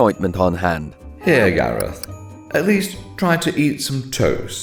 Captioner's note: ape noises